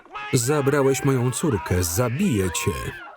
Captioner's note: screaming